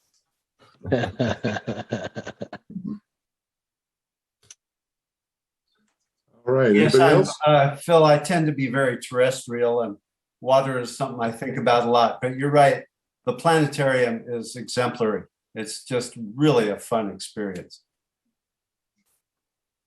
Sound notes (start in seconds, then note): 10.9 laughing